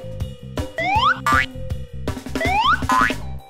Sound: hanger boings; hanger whistles; hanger boings

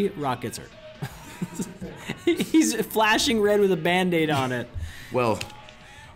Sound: laugh

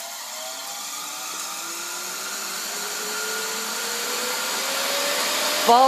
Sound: squeaky jet engine-like sound

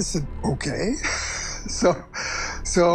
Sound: chuckles

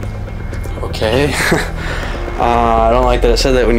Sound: laughs

